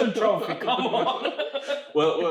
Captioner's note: laughs